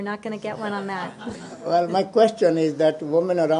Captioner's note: laughter